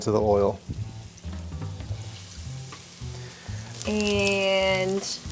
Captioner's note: oil sizzling